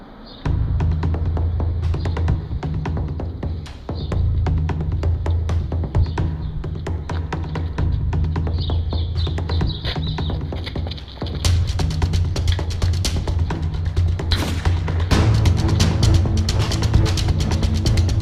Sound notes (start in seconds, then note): 0.2 drum-heavy chase music; 14.3 gunshot; 16.0 drum-heavy chase music; 18.0 gunshot